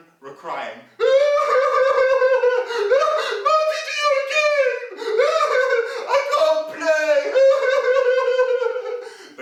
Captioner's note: sound of crying